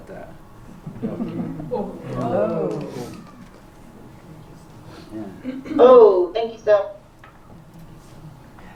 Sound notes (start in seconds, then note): 0.8 chuckles; 2.8 non-english